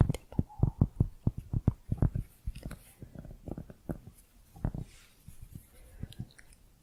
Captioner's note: tapping on cork